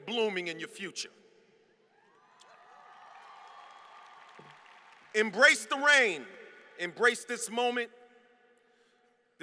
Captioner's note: applause